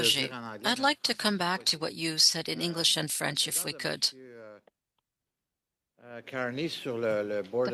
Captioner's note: speaking French